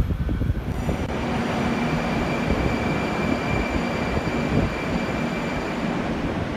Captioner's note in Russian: прибытие поезда на станцию